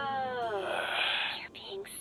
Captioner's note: sigh